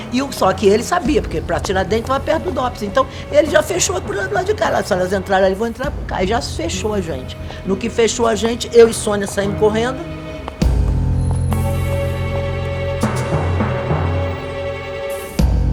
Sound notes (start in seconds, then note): 7.0 steps; 11.5 tense music